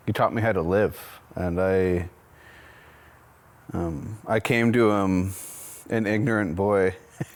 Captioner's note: laughs